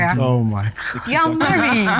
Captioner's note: laughs